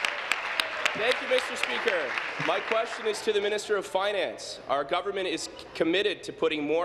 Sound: applause

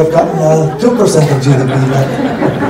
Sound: laughter

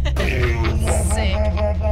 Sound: Fig laughing

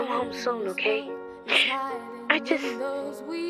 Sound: mother sniffles

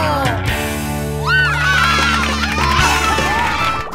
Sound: cheering

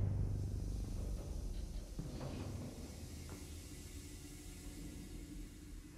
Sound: gas hissing

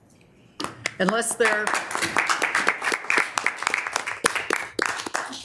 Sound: applauding

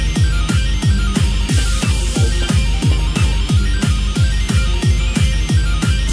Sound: giggle

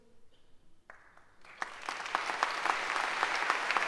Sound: applause

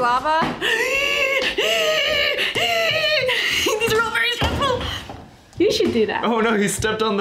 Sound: gasps

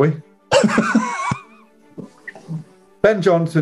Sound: laughing

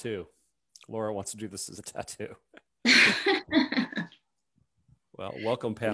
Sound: chuckles

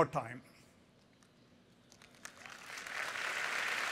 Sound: applause

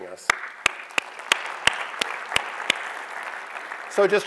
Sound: applause

